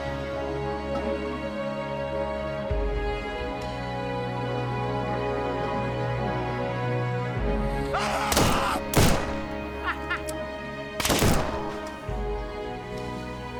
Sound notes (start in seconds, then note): 7.9 Heck yelling; 7.9 gunshots banging; 9.2 bounty hunter chuckling